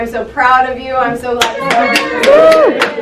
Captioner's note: applause drowns out speech